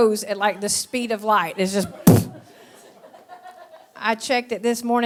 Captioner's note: blows into microphone